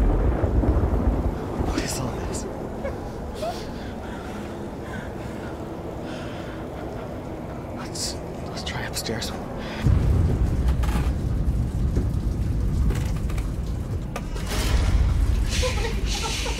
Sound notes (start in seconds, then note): 2.8 sobs quietly; 11.5 creaking stairs; 13.8 downstairs door slams shut